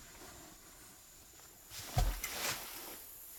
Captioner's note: thuds